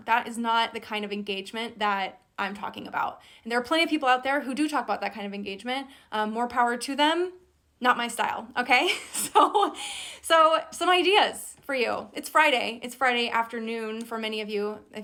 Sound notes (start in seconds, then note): 8.8 laughs